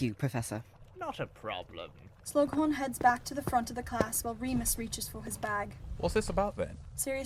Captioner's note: footsteps